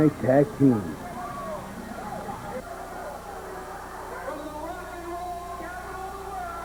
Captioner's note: crowd cheering